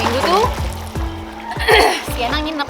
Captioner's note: cough